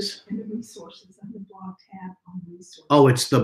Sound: lady speaking faintly

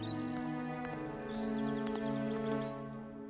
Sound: birds chirping

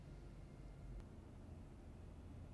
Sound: none

